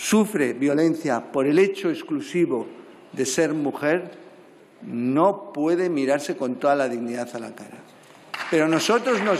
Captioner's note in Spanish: aplausos